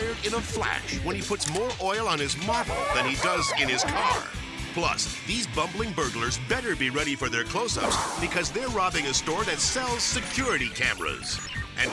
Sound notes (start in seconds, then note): 2.7 slippery metal squeaking